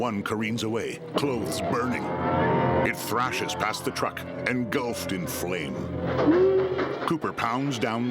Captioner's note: shrieking